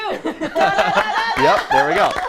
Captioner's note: laughter and applause